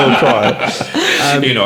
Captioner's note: laughing